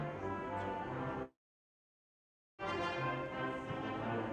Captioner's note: none